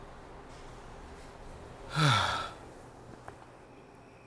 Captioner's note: sigh